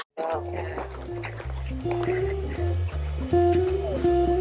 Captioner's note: dogs barking; upbeat jazz music